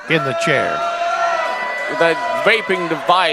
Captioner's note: audience jeering